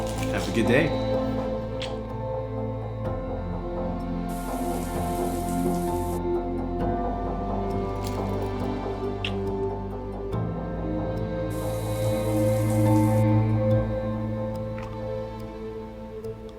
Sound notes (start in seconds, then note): 4.2 sound of shower; 11.5 sound of shower